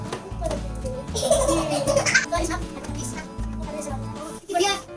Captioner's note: laughter sound